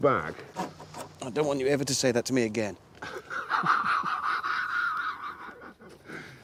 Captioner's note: laughs